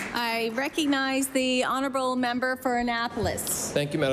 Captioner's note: applause